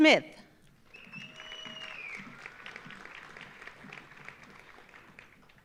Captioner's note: audience applauding